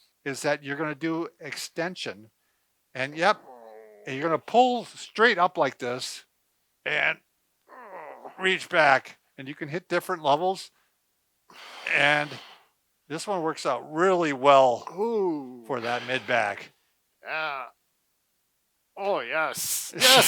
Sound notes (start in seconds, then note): 7.2 wheezes